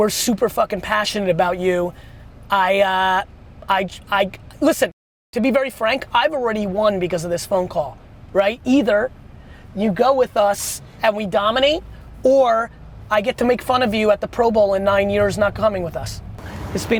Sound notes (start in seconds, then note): none